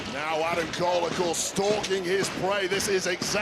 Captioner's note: audience cheering